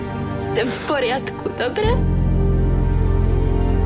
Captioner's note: Speaks Czech